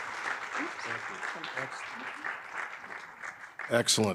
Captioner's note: audience applauding; audience applauding